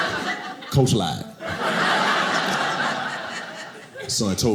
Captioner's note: audience laughing